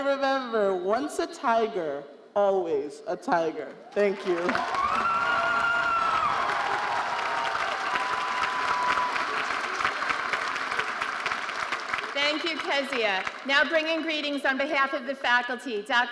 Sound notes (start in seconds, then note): 4.1 audience cheering and applauding